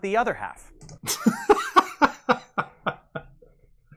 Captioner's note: laughs it off